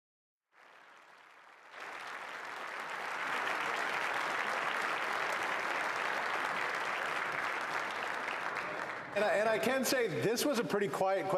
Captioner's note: applause